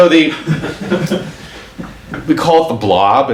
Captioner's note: audience laughs